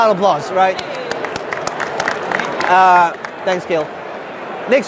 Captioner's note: clapping